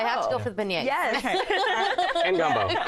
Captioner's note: chuckles